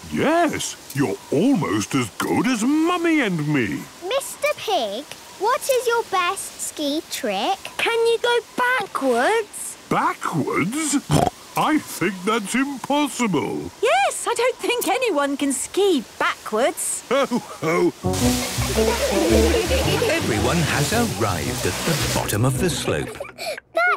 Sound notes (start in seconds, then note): 11.1 snorting; 18.2 laughter